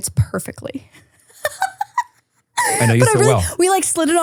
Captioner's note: person laughing